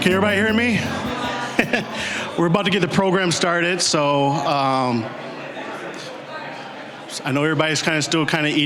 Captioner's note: chuckling; general chatter